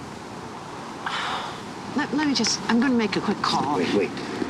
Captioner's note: sighing